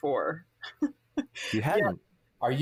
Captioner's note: laughs